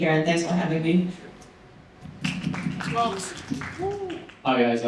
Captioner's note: applause